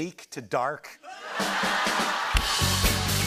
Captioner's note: laughter